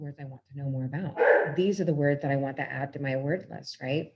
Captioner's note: dog barks